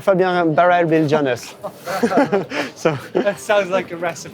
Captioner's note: laughter